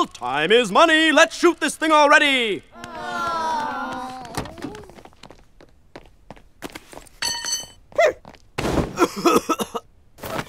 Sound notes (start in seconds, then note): 3.1 grumbling; 9.0 coughing